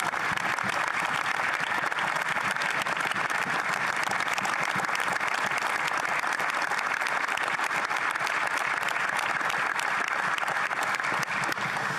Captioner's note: applause